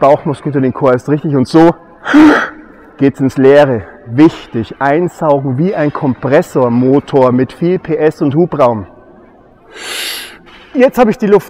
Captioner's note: inhale